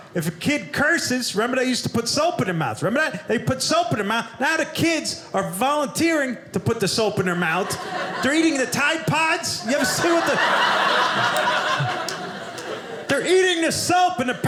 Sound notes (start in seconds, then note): 10.6 audience laughing